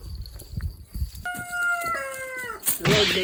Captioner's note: the sound of a rooster